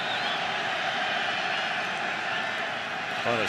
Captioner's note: cheering